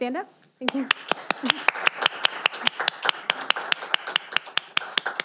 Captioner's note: audience applauding